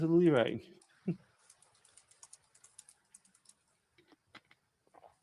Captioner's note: typing